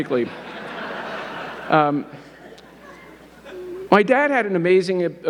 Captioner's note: audience laughing